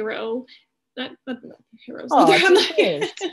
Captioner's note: laughing